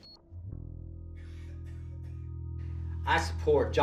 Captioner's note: ominous music; beeps